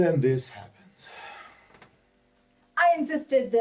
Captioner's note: sighs